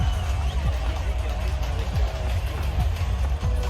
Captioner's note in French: Applaudissements; Cries de la foule